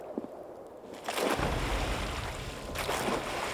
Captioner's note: oars splashing